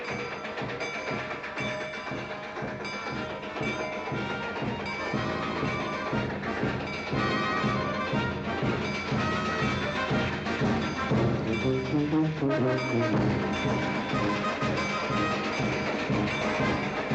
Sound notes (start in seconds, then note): 0.1 station bell tolling; 4.0 marching band playing; 4.9 station bell tolling